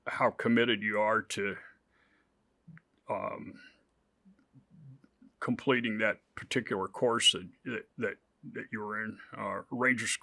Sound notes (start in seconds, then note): none